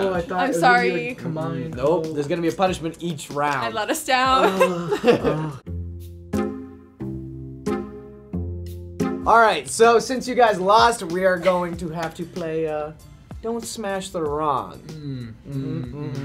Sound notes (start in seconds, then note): 4.4 chuckles; 4.4 whimsical music